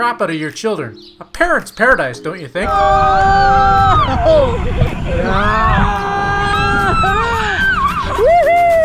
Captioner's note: screaming